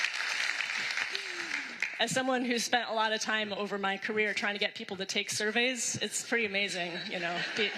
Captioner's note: applause